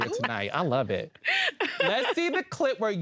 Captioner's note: laughs